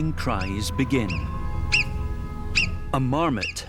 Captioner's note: marmot calls